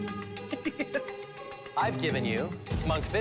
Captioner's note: chuckling